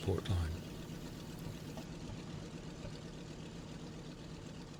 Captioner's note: aircraft engines sounding